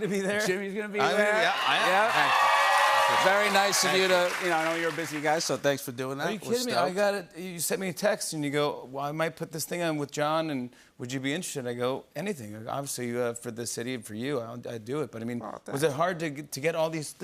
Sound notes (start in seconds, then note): 0.0 cheers and applause